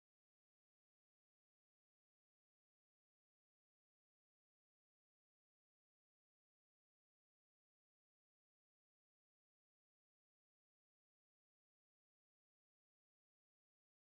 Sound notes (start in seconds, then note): none